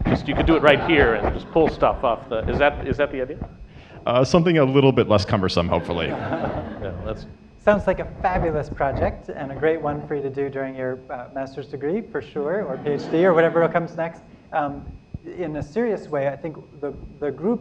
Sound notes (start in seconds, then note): 5.7 laughter